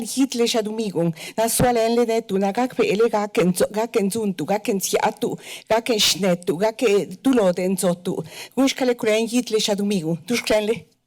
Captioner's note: foreign language